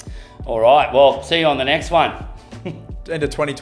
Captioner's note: chuckles